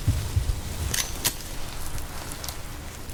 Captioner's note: mechanical sound of a gun